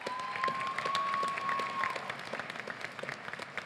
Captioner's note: applause